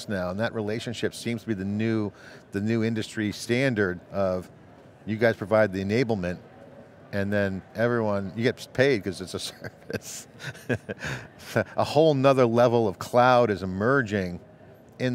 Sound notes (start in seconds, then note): 9.5 laughing